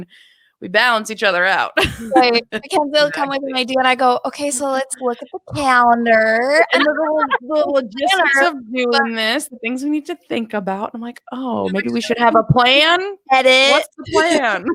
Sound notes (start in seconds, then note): 2.7 talks quickly; 6.6 overlapping chatter